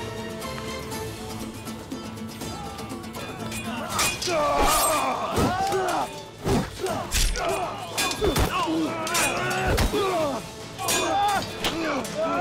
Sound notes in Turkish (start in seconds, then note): 3.2 Kılıç sesleri